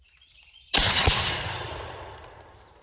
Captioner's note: 2 loud shots